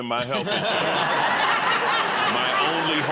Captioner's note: laughter